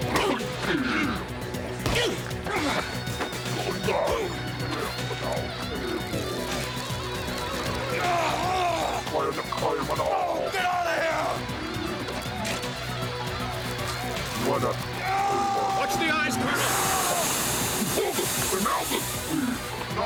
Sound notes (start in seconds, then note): 7.2 yelling; 8.6 speaking alien language; 14.7 yelling; 16.9 alien grunting